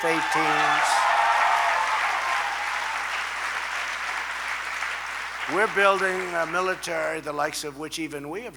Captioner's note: applause